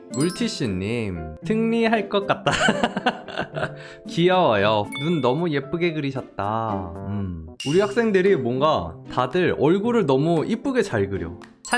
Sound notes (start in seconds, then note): 2.5 laughs